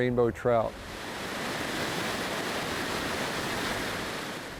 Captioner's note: water rushing